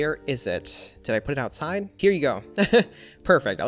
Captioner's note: laughs